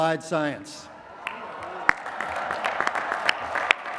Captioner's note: applause